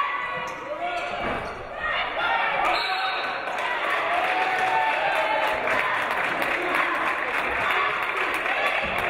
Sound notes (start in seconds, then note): 2.6 referee blows whistle; 3.4 audience applauding